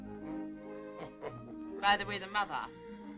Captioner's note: laughing